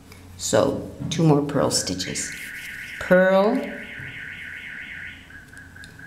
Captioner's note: a car alarm starts and then is turned off